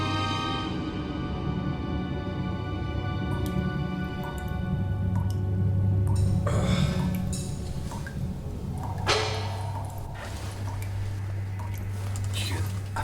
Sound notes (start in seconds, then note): 4.2 water dripping; 8.9 heavy object clanks